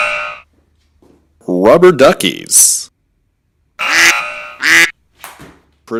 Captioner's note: negative Buzzer; negative Buzzer